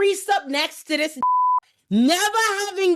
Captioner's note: beep